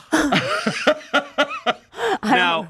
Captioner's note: laughs